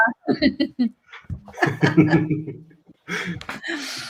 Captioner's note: all chuckling